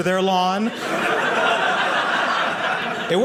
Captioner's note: audience laughing